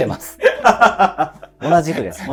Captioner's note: laughing